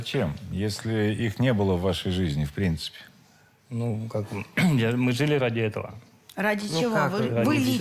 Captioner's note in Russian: откашливается